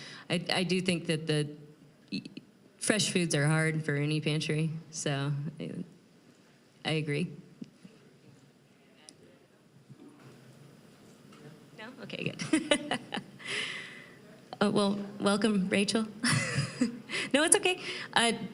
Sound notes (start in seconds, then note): 12.3 laughing; 16.2 chuckling